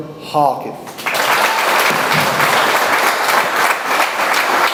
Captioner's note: audience applauds